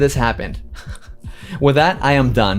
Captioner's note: laughs